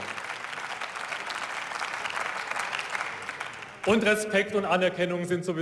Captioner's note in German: Beifall